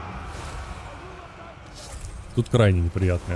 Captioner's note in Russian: крик